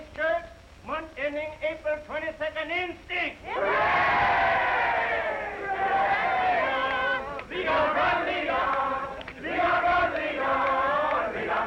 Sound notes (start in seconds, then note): 3.5 all cheering